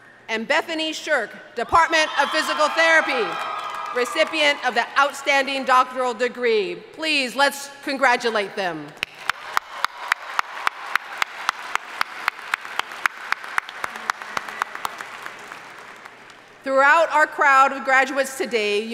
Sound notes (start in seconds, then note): 9.0 audience applauding